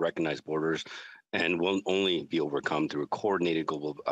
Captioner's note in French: voix de l'interprète